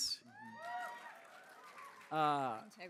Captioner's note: cheers